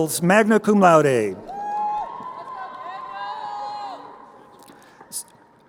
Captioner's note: crowd cheering